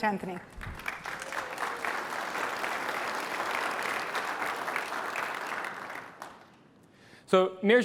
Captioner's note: applause